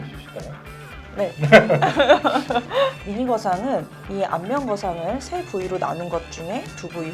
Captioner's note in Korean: 웃음